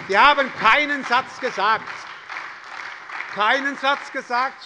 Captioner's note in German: Beifall bei der SPD